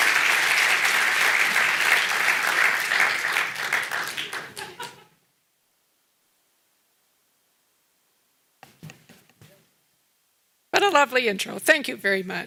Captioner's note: applause